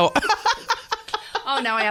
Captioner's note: laughter